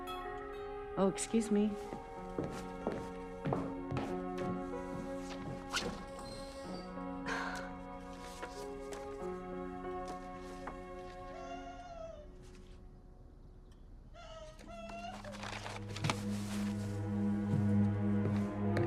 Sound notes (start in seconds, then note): 0.2 gong chiming; 2.4 calm music; 11.6 Ruth screaming; 15.1 somber music